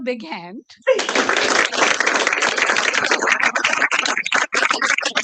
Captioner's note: applause